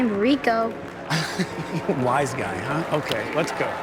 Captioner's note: chuckles